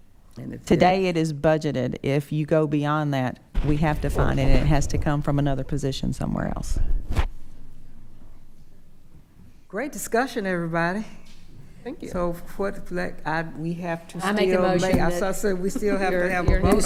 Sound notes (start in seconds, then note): 12.8 stammering